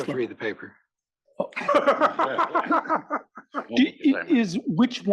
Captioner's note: laugh